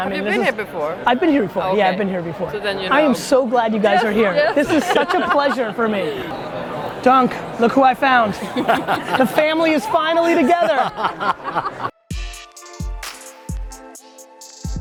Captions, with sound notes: - You've been here before. - I've been here before, yeah I've been here before. - So then you know - I am so glad you guys are here. (laughs) This is such a pleasure for me. Dunk, look who I found! (laughs) The family is finally together! (laughs) (hip hop music)